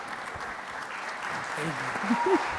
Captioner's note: audience applauding